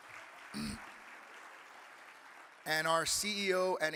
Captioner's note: audience applauding